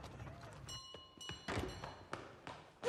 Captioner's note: doorbell